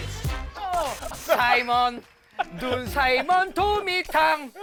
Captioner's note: laughing her head off LOL